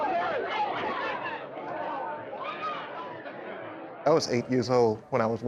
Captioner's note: crowd shouting